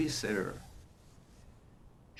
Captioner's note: wiping nose